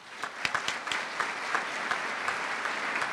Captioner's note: applause